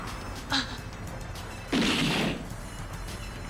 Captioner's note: Mika groaning